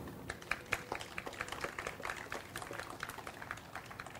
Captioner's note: audience applauds